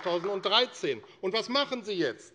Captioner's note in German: Beifall AfD